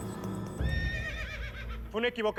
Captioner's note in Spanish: relinchos